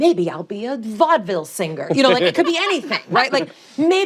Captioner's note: laughter